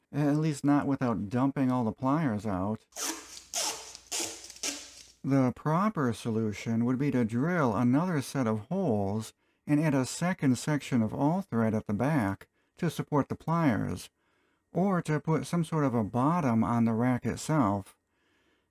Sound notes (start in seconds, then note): 2.9 duct tape sound